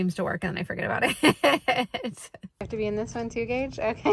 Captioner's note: laughs